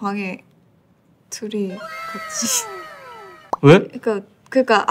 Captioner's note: cracking herself up